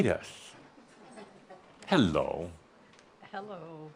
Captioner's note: chuckling